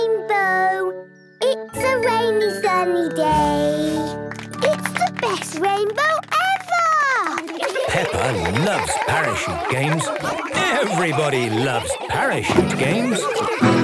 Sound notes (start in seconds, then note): 7.4 laughter